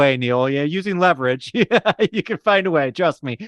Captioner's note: laughter